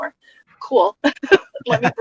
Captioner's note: laughs